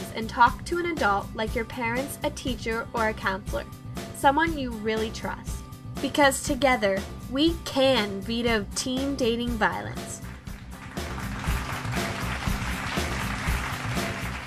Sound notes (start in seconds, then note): 10.2 applause